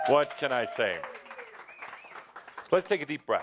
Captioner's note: audience approval